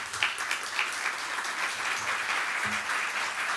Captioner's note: applause